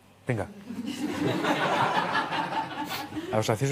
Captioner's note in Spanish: Risas